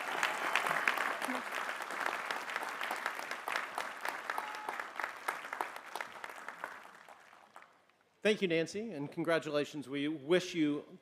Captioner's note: applause